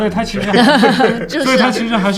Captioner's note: laughter